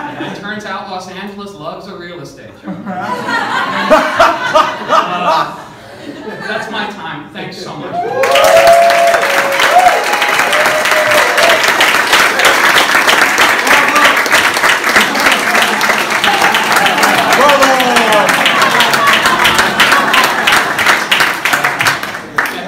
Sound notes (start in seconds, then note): 0.0 laughter; 2.6 laughter; 9.2 applause - and then the crowd shouts Bravo! Bravo!